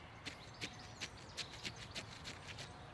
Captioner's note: wipe of a brush